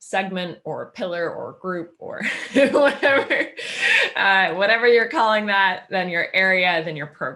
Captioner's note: laughing